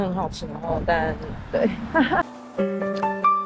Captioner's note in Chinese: 苦笑